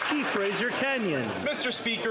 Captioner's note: some Applause